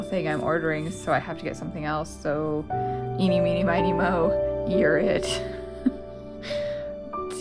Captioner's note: laugh